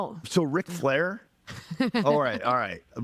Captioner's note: laughing